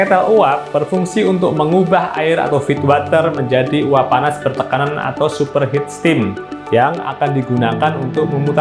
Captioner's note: superheated steam